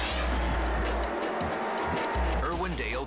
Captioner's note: dramatic music; engines revving